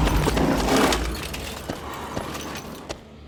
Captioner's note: horse snorts